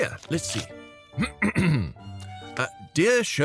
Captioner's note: clears throat